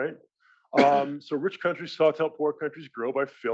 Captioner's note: cough